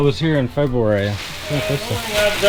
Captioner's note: plastic rustling